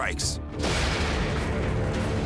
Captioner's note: vehicle crashing; intense music